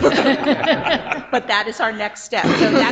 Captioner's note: all laughing